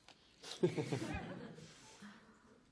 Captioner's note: laughter